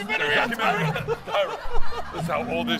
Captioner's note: laughter